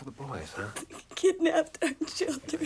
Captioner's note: sobs